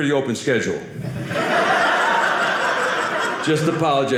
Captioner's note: audience laughing